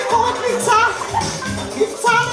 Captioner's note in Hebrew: התנשפות